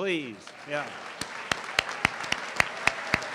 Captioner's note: applause